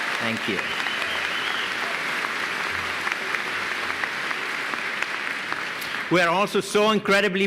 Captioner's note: applause